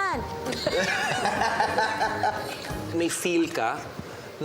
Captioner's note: laughter